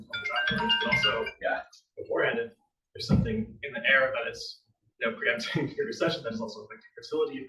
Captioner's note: ringing